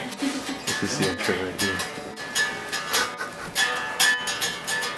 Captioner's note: people talking quietly